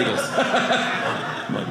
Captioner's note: audience laughing